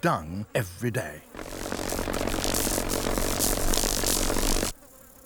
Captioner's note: buzzing